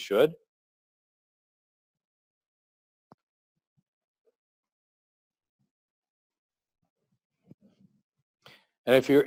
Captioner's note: pause